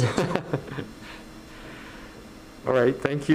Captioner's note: laughing